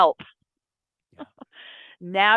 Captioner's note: laughs